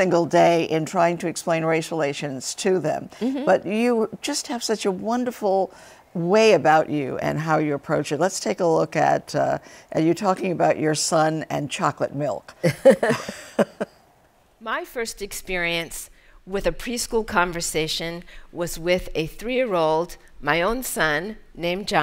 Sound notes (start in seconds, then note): 12.6 laughter